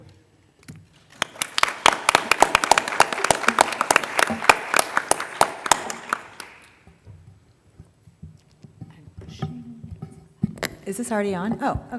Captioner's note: applause